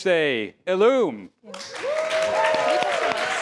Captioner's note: applause